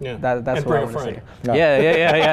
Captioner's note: laughs